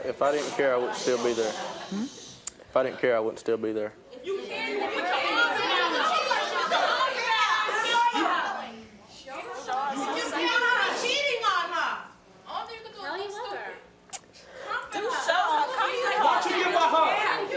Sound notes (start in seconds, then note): 7.8 audience uproar